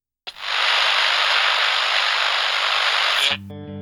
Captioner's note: camera buzzing